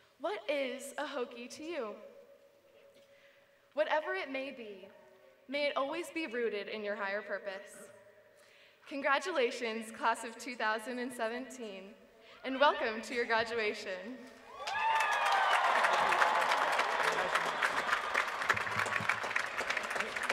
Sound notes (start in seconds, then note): 14.5 applause